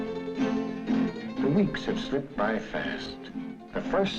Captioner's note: voiceover